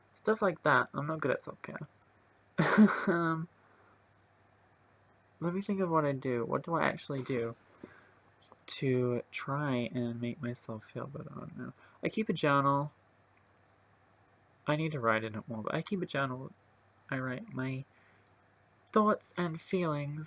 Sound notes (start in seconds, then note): 2.6 awkward laughter